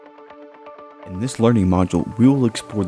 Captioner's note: voiceover